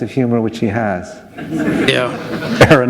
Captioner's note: laughter